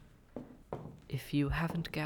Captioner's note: SFX: Footsteps, continuing